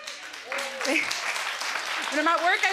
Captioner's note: audience clapping